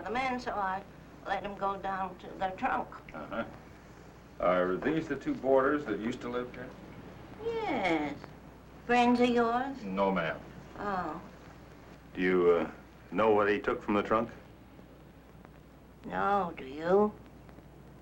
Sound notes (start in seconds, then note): none